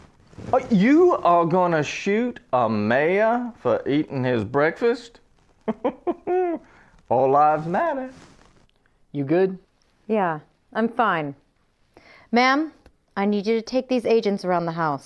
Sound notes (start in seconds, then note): 5.6 giggle